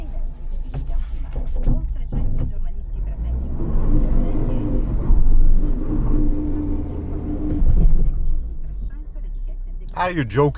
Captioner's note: speaking in foreign language